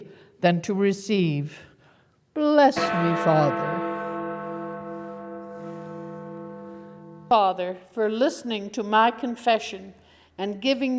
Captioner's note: bell rings